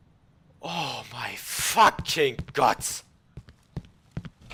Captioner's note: breathes out